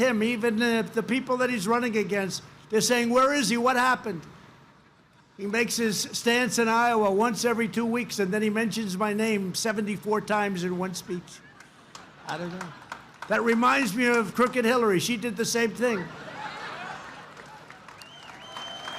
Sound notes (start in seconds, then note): 12.0 laughter; 16.8 applause